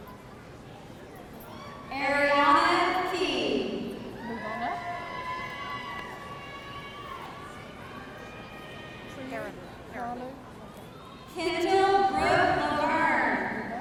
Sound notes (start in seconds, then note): 4.5 audience cheering